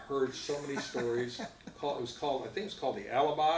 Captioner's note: laughs